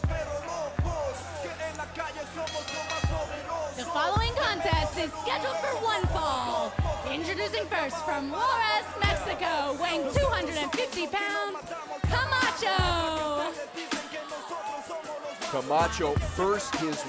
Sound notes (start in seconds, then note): 2.3 bell ringing